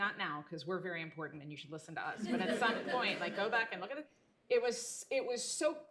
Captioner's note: laughter